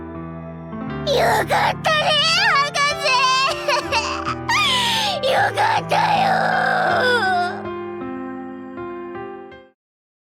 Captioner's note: sobbing